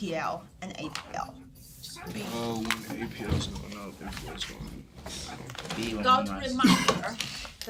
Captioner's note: students murmur